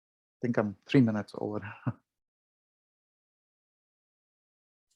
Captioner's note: chuckles